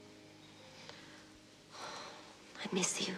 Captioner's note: sighs